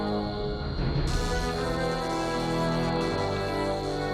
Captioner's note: zapping